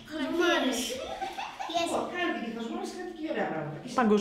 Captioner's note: laughs